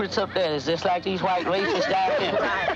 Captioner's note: laugh